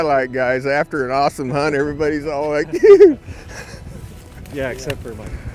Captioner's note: laughing